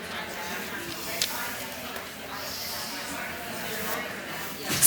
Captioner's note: audience chatter